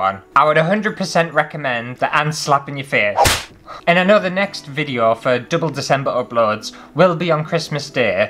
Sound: slap

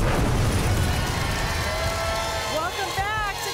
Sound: audience applause

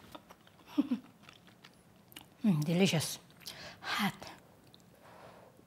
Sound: laughs

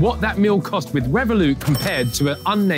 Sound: cash register dinging

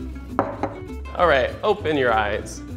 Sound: plate being put on table

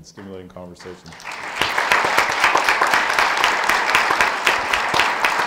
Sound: audience applauds

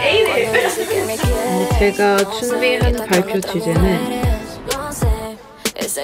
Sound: speaks in Korean

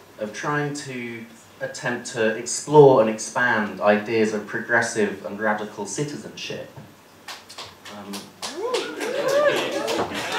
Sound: applause

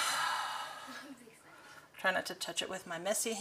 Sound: sighs

